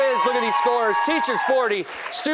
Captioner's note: cheers and applause